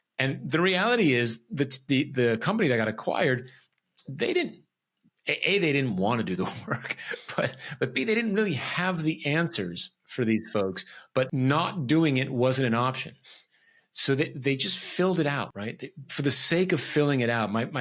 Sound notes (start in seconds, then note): 6.5 laughs